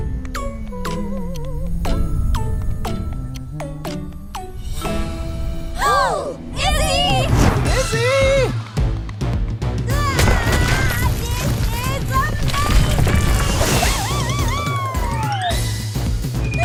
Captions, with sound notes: -[all gasp] Izzy! -Izzy! [screaming] This is amazing! [yells]